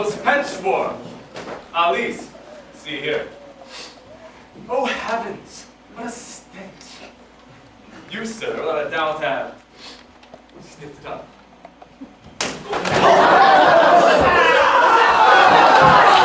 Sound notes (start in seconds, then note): 3.2 sniffs; 12.8 cheering